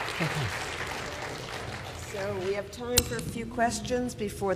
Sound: applause

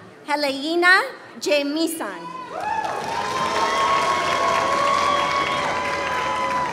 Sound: applause

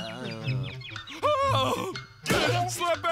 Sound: groaning

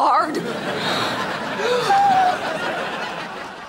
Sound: gasping

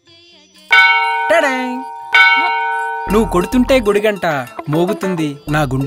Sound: temple bell rings

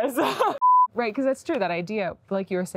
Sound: beep

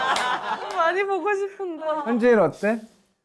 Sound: sniff

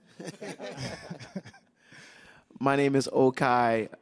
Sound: laughing

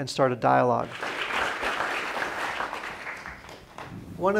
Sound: applause

